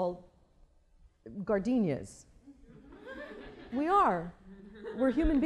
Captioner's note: laughter